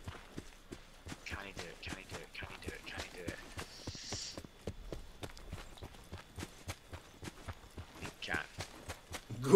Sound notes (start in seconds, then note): 4.6 breathes deeply inwards